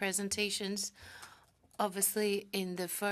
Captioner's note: speaking French